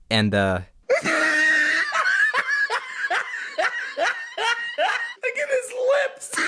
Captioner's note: wheezes